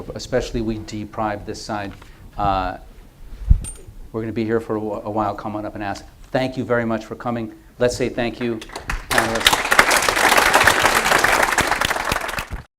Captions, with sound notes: especially we deprived this side, we're going to be here for a while, come on up and ask. Thank you very much for coming. Let's say, thank you, panelists. [APPLAUSE]